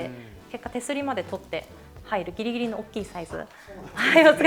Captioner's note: laughs